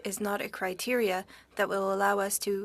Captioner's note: speaking French